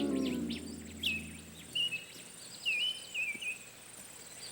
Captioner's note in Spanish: pássaros cantando